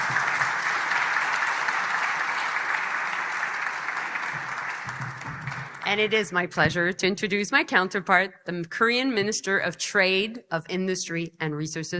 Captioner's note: applause